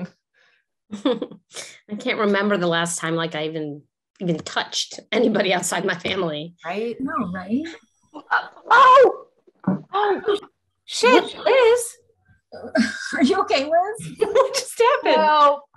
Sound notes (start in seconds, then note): 8.6 cries out